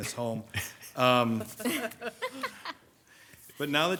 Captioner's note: group laughs